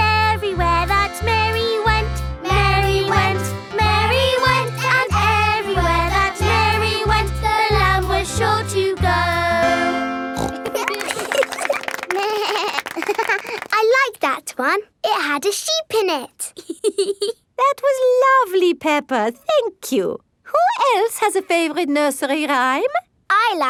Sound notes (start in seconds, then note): 10.4 snorts; 10.4 laughing; 12.2 bleats and laughs; 16.4 laughs